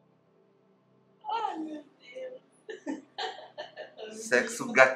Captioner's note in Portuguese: Risos